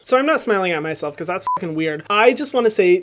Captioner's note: beep